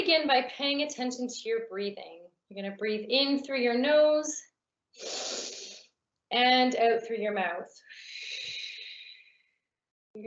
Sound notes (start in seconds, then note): 5.0 inhaling; 9.1 exhaling